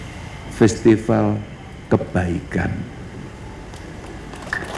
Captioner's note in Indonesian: tepuk tangan